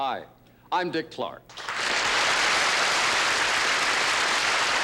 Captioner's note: applause